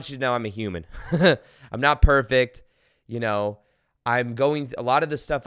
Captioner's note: giggles